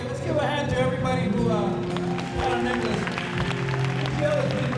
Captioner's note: crowd applause